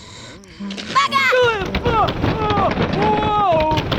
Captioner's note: yelling